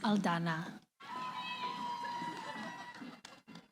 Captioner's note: cheering